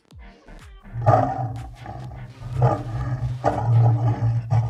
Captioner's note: upbeat music; lion roaring